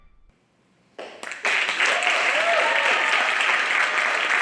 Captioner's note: cheers and applause